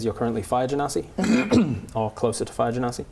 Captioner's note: clears throat